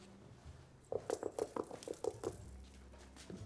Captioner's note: knocking